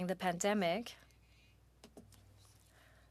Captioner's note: speaking French